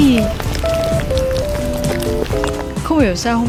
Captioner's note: ASMR eating sound